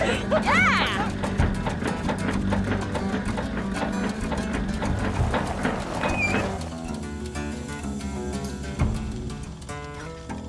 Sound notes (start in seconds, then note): 0.0 truck knocking; 1.1 bright music